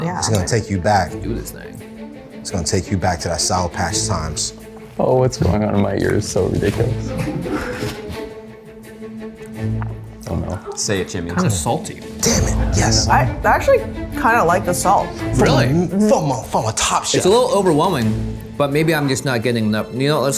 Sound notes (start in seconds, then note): 7.1 people laughing